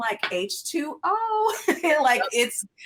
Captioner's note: laughs